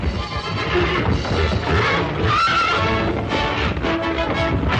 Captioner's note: horses neighing